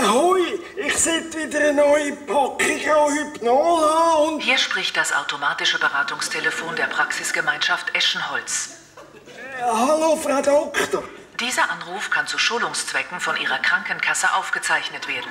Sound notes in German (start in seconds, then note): 4.1 Ärztetelefon-Stimme